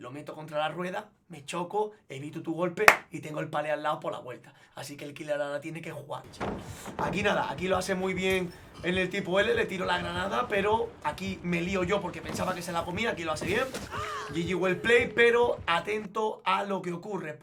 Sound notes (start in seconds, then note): 2.8 claps in Spanish